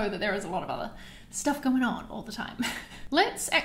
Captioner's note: laughs